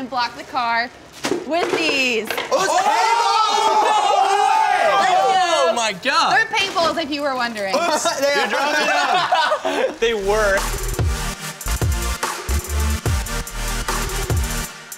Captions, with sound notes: and block the car with these. - Oh, is it paint balls? (screams) - They're paint balls, if you were wondering. - Oops, you're dropping them! (laughs) - They work! (upbeat electronic music)